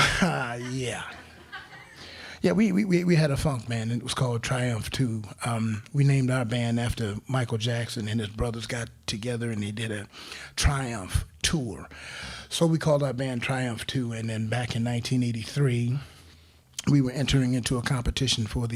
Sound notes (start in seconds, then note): 0.0 crowd laughing